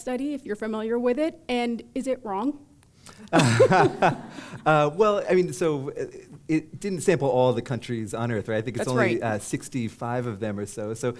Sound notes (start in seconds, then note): 3.3 laughter